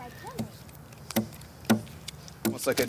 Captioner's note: tool banging